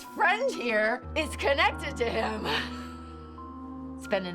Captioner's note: laughs